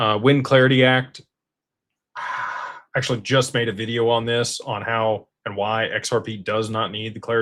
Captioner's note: sighs